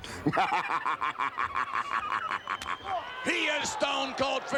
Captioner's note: Ted chuckling